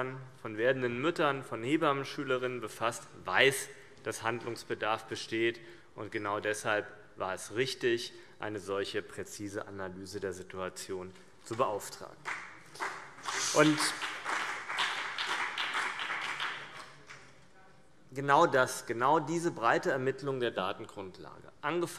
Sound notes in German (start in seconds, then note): 12.2 Beifall CDU und BÜNDNIS 90/DIE GRÜNEN